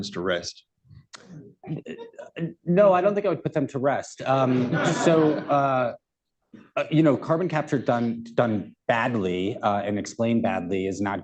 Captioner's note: laughter